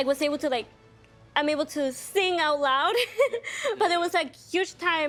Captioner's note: laughing